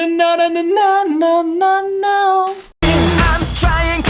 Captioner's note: natural voice; falsetto; natural voice